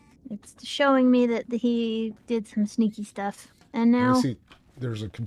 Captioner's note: none